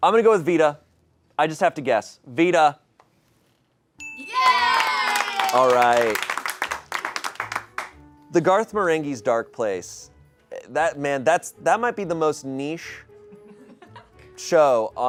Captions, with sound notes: I'm gonna go with Vida. I just have to guess, Vida. (bell dings) (audience cheering) All right. The "Garth Marenghi's Dark Place," that, man, that might be the most niche show